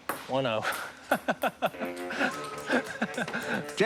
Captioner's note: laughs